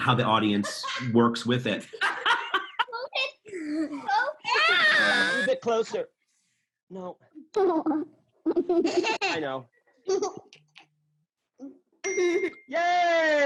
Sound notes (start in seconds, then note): 8.4 giggling in the background